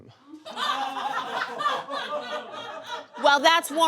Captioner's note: audience laughs